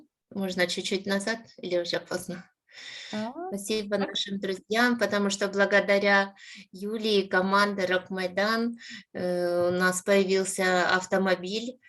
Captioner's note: speaking Ukrainian